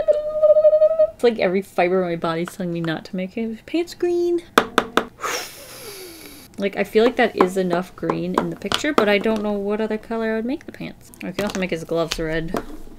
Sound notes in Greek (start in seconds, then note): 4.5 Χτυπήματα, εκπνοές